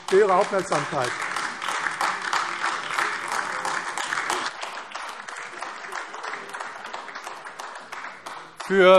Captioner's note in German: Beifall AfD